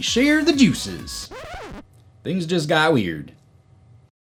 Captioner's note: sound: Record Scratch